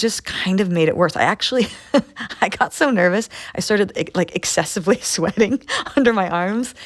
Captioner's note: laughter